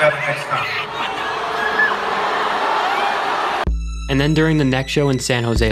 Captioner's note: audience booing